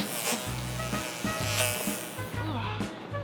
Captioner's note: buzzing